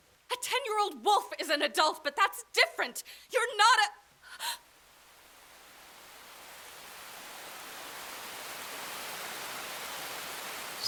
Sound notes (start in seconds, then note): 4.3 gasps; 5.6 gentle pattering of rain rushes in